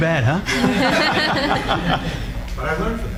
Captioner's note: laughing